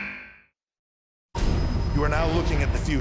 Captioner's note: buzzer